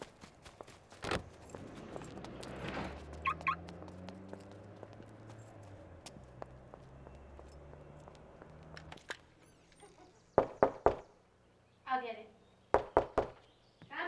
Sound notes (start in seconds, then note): 10.4 soft knocking